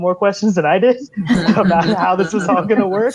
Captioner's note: laughing